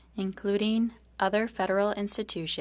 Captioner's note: speaking french